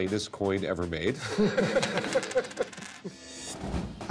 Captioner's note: laughter; coin dropping